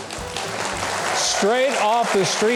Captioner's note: audience clapping